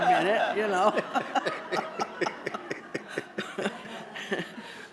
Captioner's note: laughter